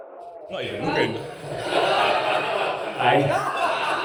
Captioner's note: audience laughs